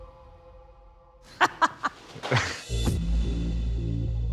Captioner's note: laughs